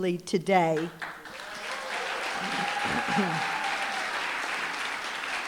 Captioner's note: applause, cheering